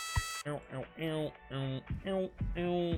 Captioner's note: Skull mimics the music